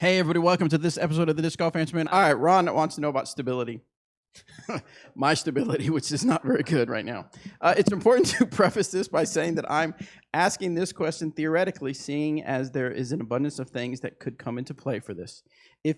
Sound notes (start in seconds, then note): 4.4 both laughing